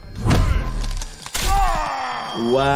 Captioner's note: bones cracking